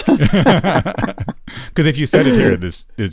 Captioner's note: laughter